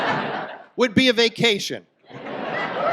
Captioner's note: audience laughs